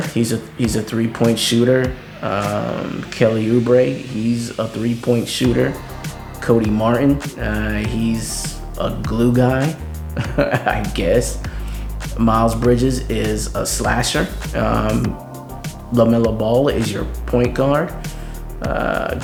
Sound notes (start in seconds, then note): 10.1 chuckles